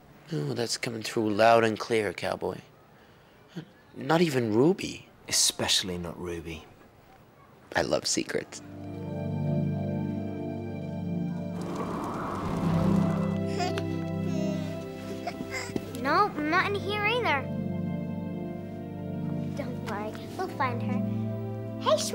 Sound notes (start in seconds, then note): 8.7 dramatic music; 11.2 wind blowing; 11.3 flames crackling; 14.1 blond child cooing